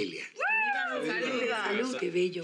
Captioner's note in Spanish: alguien exclama